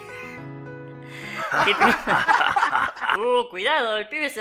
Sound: everyone laughs

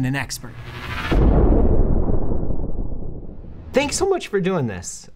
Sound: bomb exploding

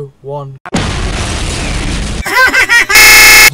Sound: explosion

